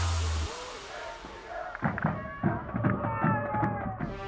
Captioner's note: fans chanting